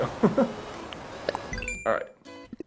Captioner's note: laughs